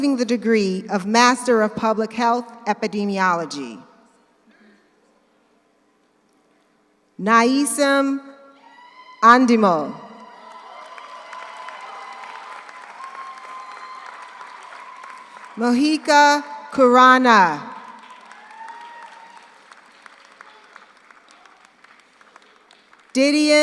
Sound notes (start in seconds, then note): 10.1 audience cheers; 10.2 audience applauds; 17.9 audience applauds; 18.0 audience cheers